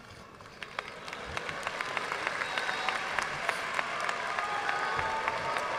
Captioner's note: audience cheering and applauding